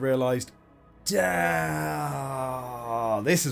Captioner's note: incoherent regret noises